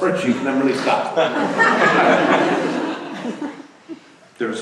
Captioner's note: laughter